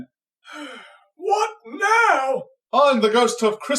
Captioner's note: sighs